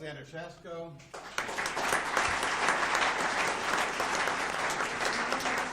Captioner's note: audience applauds